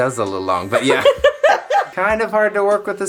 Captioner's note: laughing